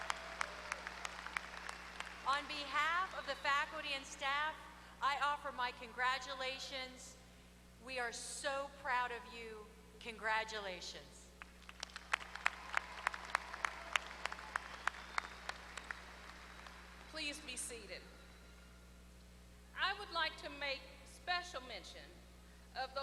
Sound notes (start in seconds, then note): 0.0 applause; 14.2 applause